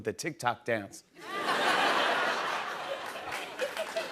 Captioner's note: laughter